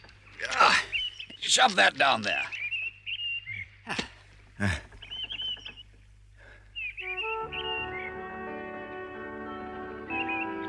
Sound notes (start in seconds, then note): 0.3 rat grunts; 4.5 Rat sighs; 4.6 Mole grunts; 5.8 birds chirp